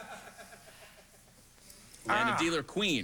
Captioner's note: laughter